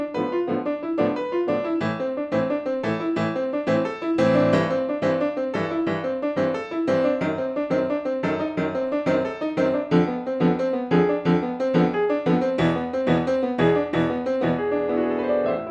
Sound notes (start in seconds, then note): none